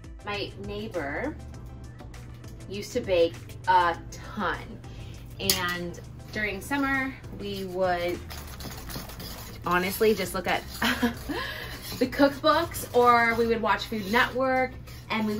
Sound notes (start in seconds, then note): 1.4 quiet upbeat music; 8.6 quiet upbeat music; 8.6 whisk grating